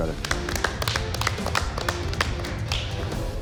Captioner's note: applause